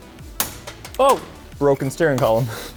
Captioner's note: piece snaps